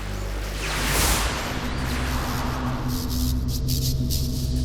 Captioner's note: energy buzzing